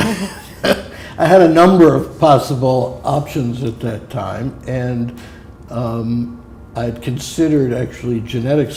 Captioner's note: chuckle